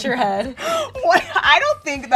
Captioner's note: laughs